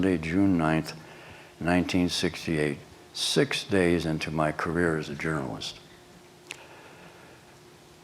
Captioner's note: none